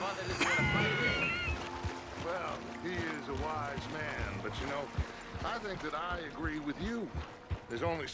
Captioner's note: While approaching Dutch and Eagle Flies on shore, Arthur coughs